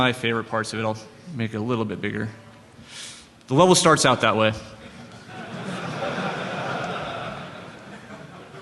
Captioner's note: laughter